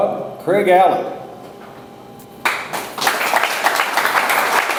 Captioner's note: audience applauds